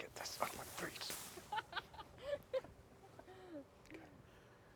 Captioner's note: woman laughs